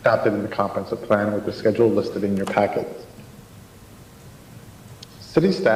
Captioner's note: choppy audio